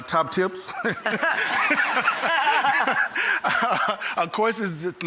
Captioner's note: audience laughs; laughs